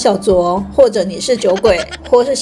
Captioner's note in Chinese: 哈哈